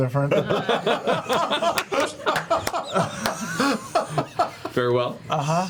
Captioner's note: laughter